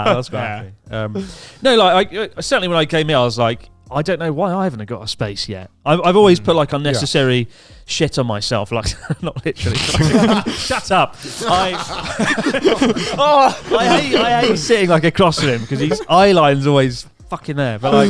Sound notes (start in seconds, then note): 8.8 all laughing; 12.3 laughs